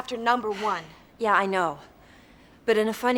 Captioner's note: sighs